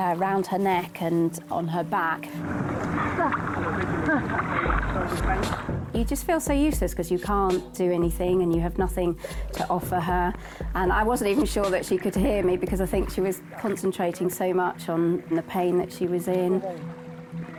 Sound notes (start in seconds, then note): 2.9 chattering; 3.3 grunting; 17.4 group chattering